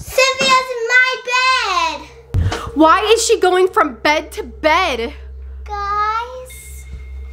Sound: none

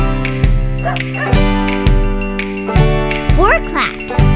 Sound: Bingo barks

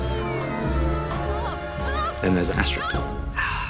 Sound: children's cars hoot

